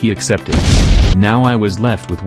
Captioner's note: explosion again